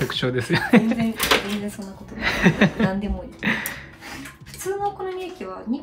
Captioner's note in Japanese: 笑い